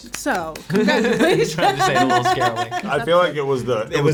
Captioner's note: clapping; laughs